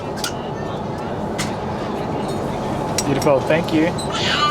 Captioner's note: baby crying